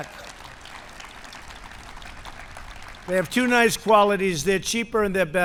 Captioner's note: applause